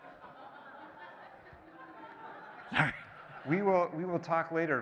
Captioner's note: laughing